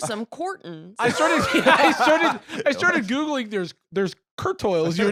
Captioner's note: laughs